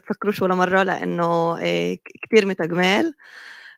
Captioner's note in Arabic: لغة أجنبية